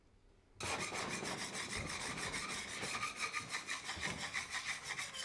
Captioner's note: tool scraping